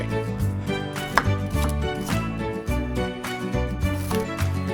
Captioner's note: sizzling